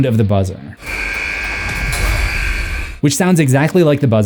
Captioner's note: buzz